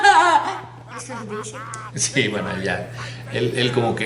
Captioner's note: he starts laughing